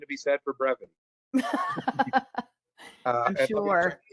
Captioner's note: laugh